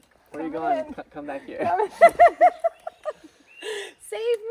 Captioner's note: laughs